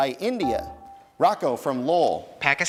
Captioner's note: dinging